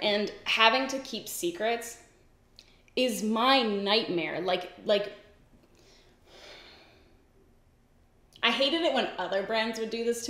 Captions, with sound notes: and having to keep secrets is my nightmare. (sighs) I hated it when other brands would do this to me,